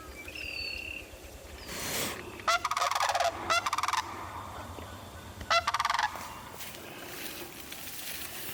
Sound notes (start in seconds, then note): 2.5 cranes chirping lightly